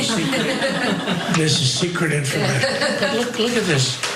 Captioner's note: laugh